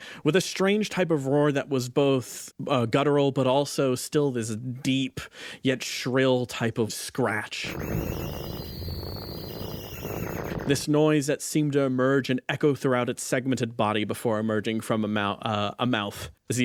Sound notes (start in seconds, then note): 7.6 Basimander roars